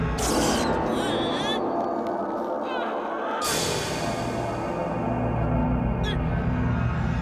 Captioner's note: dramatic eerie music; groaning